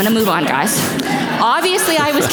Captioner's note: audience laughs